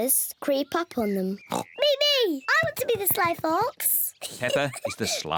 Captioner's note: oinks